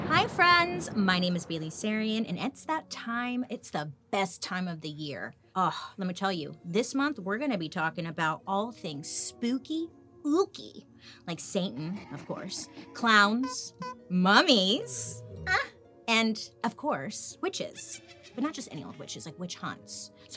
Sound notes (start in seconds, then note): 11.7 Satan laughs eerily; 13.1 car horn beeps; 15.1 mummy groaning; 17.5 witch cackles